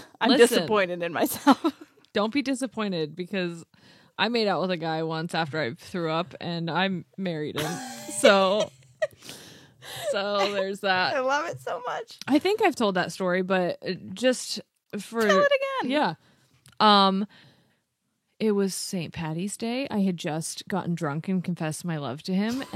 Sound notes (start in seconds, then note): 7.9 laughs